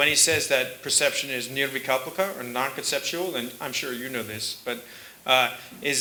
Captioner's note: sanskrit